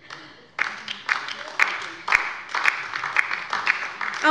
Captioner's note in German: Beifall bei der LINKEN